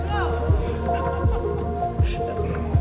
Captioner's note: laughter